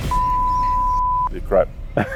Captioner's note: beep